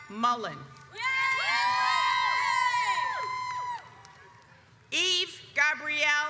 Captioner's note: audience cheers